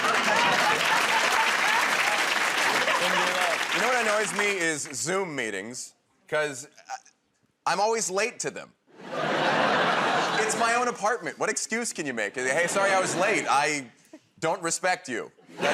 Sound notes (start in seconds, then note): 1.6 applause